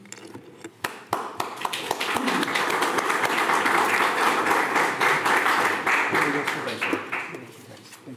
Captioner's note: audience Applause